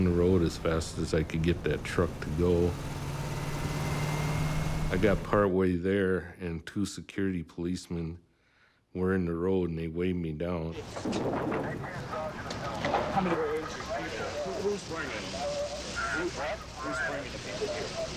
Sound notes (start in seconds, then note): 10.8 knocking